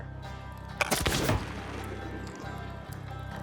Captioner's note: gunshot